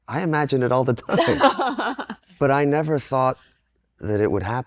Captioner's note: laughs